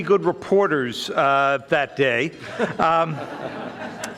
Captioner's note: audience laughing